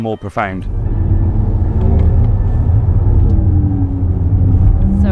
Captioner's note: engines revving